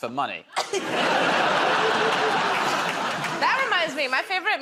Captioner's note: laughter